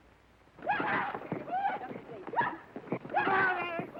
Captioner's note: Lucky whooping